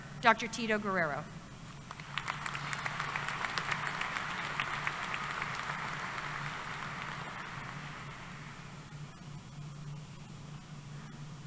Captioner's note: applause